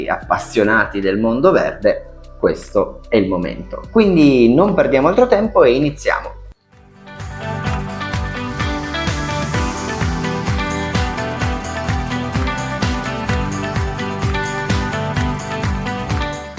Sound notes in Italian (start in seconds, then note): 8.5 Applauso